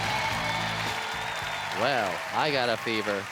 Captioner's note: applause